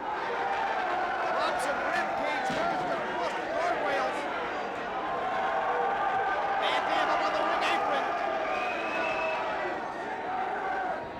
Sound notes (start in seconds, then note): 0.3 crowd cheering; 5.5 crowd cheering